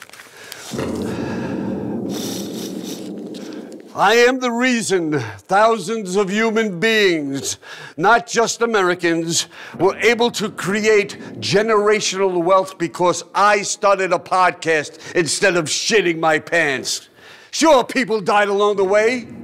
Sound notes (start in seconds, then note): 0.6 bombing continues